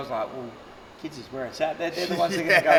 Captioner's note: laughing